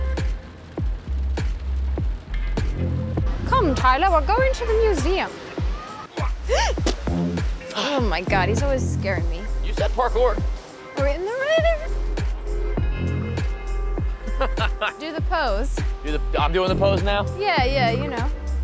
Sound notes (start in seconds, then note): 6.5 Kira gasps; 12.5 midtempo music; 14.2 Tyler laughs